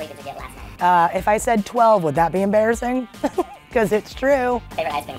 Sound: laughs

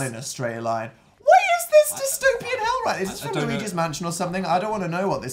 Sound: really high pitched

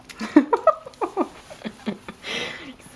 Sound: laughing

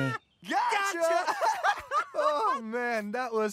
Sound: laughing

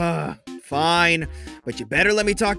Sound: breath

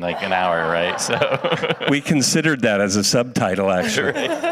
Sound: audience laughs

